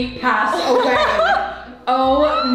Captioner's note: laughs